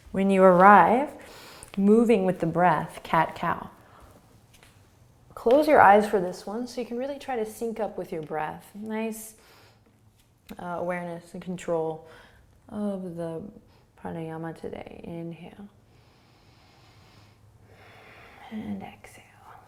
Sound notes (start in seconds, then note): 16.0 inhaling and exhaling